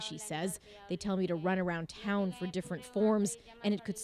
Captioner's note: speaking Foreign Language